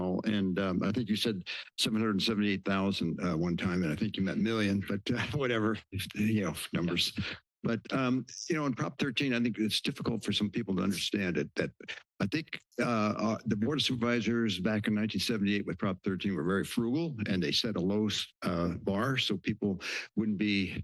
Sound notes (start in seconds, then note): 5.1 chuckling